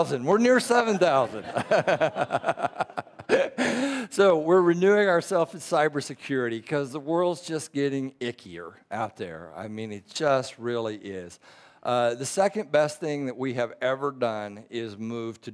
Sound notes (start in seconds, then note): 4.0 laughing